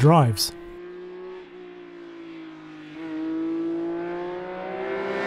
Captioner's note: car engine revving